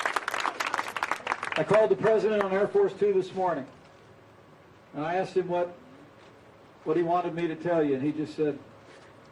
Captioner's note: cheering and applause